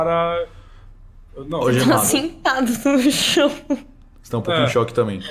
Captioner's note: laughs